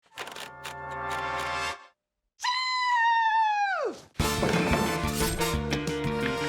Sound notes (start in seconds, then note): 0.1 typewriter wheel clicks